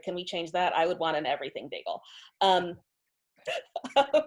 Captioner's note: laughs